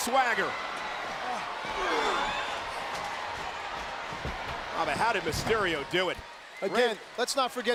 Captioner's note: applause